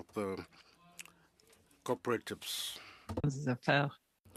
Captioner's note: speaking French